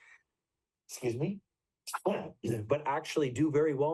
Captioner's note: sneezes